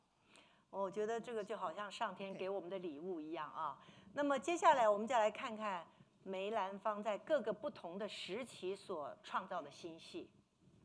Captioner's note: speaking Mandarin